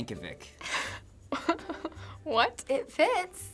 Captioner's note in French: rires